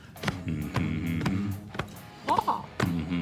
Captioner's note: humming